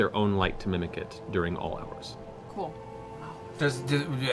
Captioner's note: none